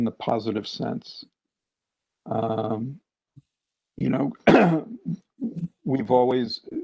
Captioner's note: cough